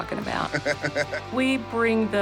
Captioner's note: laughter